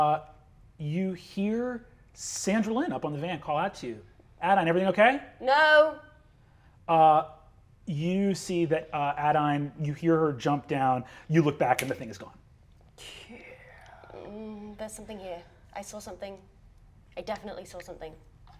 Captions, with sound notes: - You hear Sandra Lynn up on the van call out to you. Adaine, everything okay? - No! - You see that, Adaine, you hear her jump down. You look back (snaps fingers) and the thing is gone. - Yeah... - Mm, there's something here. I saw something. I definitely saw something.